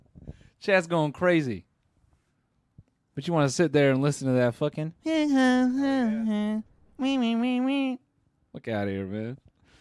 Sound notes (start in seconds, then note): 4.6 in a mocking tone